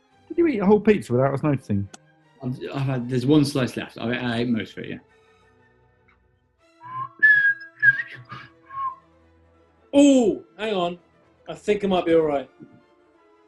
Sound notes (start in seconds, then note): 6.8 whistles ♫ boop boop unicorn mug ♫